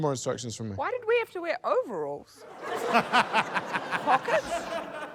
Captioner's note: laughter